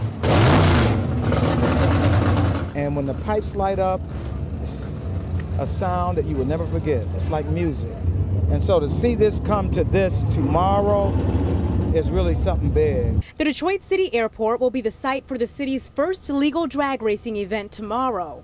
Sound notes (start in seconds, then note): 7.1 engine revving